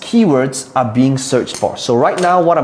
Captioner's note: rattling marker